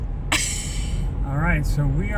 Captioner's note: laugh